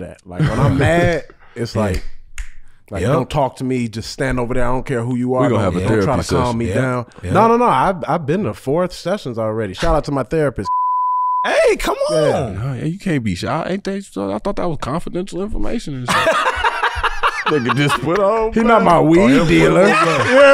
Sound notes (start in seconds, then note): 16.0 laughs